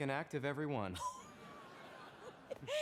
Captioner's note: laughing